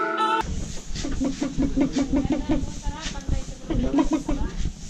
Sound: clucks

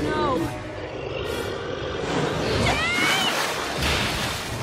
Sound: monster growling

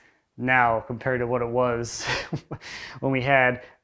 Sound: chuckles

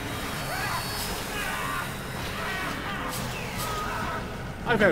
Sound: screams

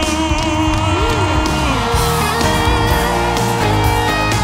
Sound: cheers

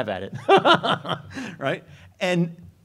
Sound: laughs

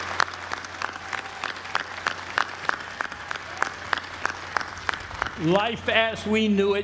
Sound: applause

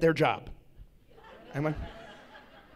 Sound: laughs

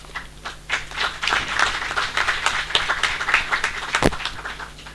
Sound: audience clapping

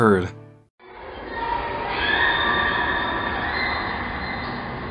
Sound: children screaming

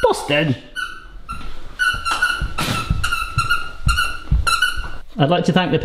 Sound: dog toy squeaking

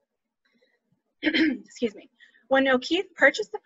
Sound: coughs

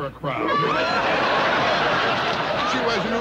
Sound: laughter

